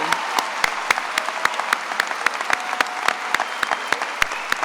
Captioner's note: attendees applauding